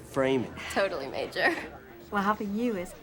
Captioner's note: chuckling